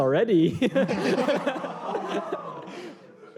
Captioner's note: laughter